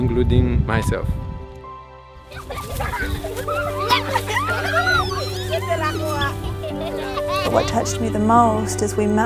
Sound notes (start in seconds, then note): 2.2 giggling